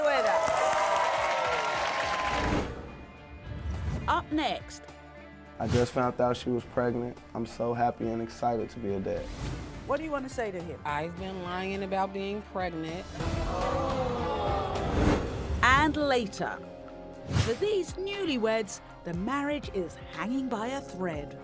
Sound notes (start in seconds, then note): 0.0 audience cheering and applause; 12.7 audience gasping